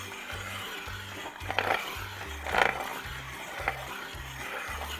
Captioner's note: mechanisms jostling